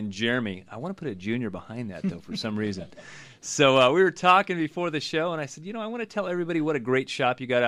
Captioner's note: group laughs